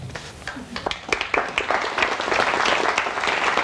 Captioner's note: applauding